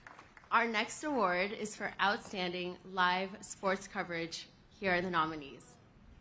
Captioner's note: applause